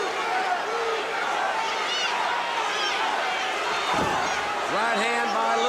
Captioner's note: crowd chatter